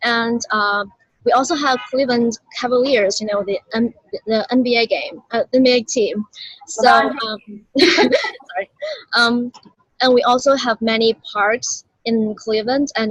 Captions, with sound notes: And we also have Cleveland Cavaliers, the NBA team. [laughing] And we also have many parks in Cleveland,